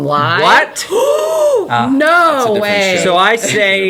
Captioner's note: gasping